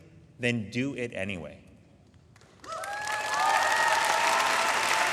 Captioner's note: audience applauding